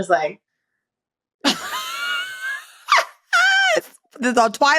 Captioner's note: laughs